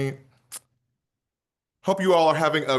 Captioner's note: smacks lips